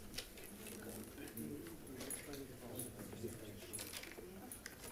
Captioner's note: people chattering